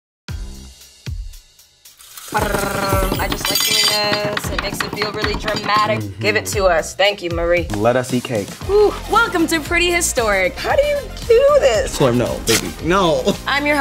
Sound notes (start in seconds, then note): 0.0 upbeat music; 2.0 curtains drawing; 2.3 woman mimicking a drum roll